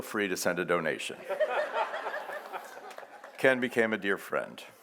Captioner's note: audience laughs